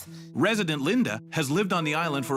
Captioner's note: voiceover